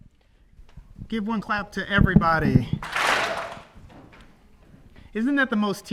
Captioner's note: audience claps